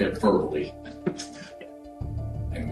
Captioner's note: chuckles